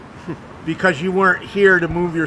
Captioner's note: veteran chuckling